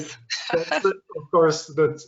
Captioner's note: laughter